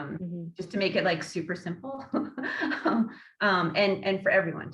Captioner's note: laughing